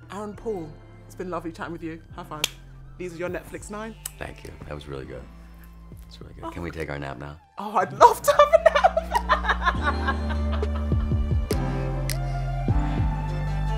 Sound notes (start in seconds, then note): 8.2 laughs